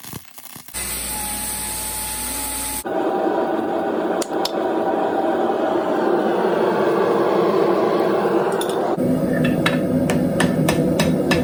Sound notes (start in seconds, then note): 9.4 hammering noise